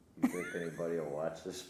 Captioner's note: laughing